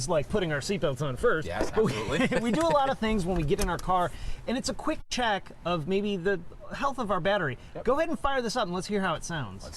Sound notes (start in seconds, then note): 1.8 laughs